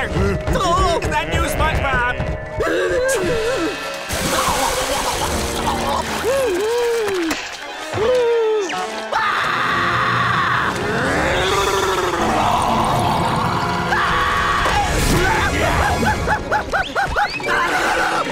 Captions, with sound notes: Oh! Is that you, SpongeBob? [gasps] [gasps] [gasps] [screams] [laughing] [screaming]